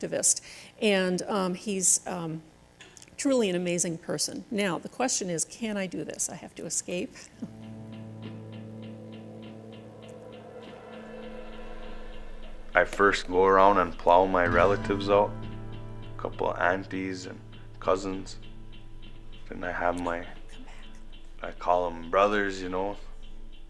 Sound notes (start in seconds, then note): 7.6 steady music; 12.5 voiceover